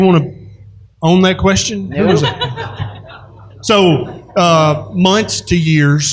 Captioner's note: laughter